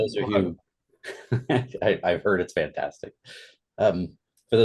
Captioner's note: laughs